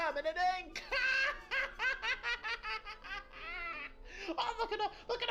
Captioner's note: laughs